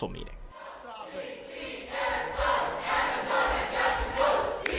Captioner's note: crowd